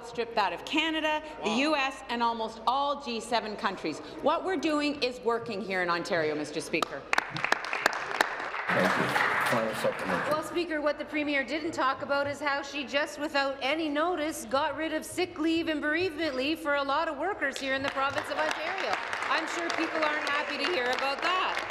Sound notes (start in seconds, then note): 10.3 applause